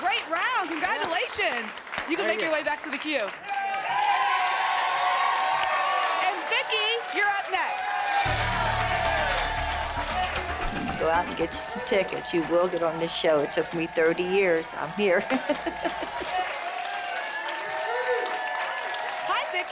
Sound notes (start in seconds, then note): 3.8 cheering and applause; 15.2 laughter; 16.6 applause